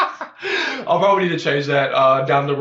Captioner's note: laughs